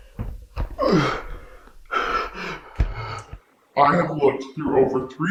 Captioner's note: Greg gasping